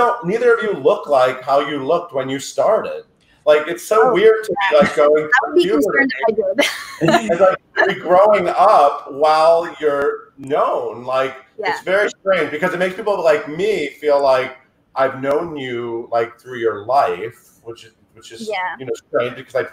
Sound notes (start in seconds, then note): 6.8 laughs